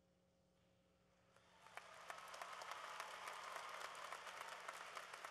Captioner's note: applause